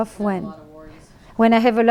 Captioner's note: voiceover